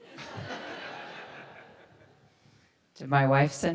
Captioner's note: audience laughs